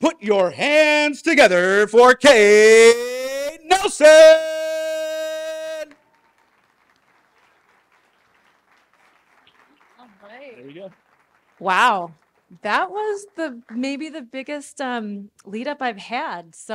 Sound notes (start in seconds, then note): 6.0 muted applause